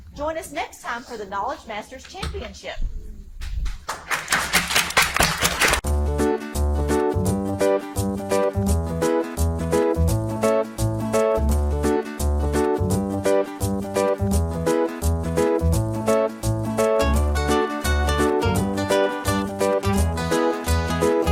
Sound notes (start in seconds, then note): 3.8 audience applauding; 6.0 playful upbeat music; 15.8 playful upbeat music continues